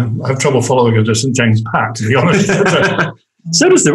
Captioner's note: all laugh